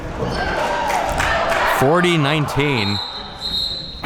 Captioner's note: spectators cheering